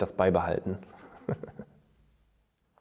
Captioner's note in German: lacht